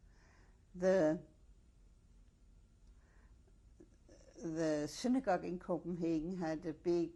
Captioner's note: pauses for 3 seconds